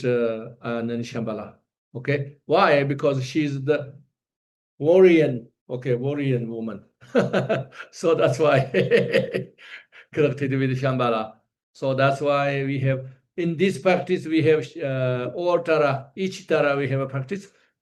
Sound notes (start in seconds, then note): 7.1 laughs